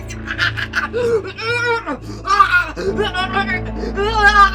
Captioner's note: Betsy choking